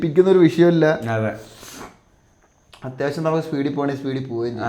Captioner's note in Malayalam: ചീറ്റുന്നു